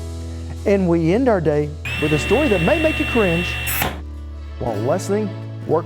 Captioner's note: table saw sawing wood